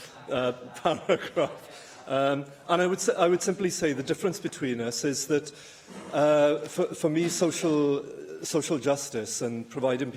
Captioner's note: laughter